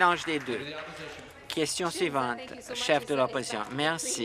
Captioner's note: applause